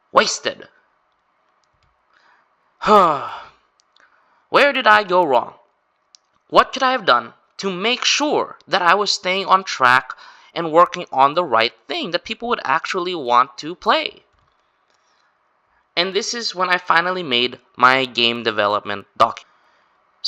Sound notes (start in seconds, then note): 2.8 sigh